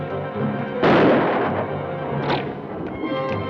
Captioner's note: gun fires; bow twangs